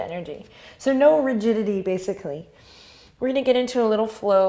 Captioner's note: inhales